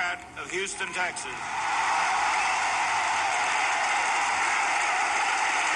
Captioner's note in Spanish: vítores y aplausos